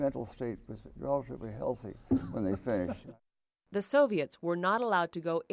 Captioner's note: laughter